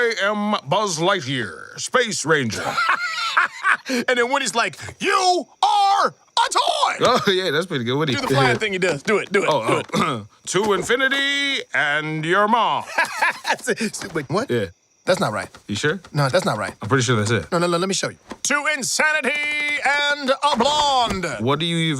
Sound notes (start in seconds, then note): 2.5 laughs; 12.8 laughs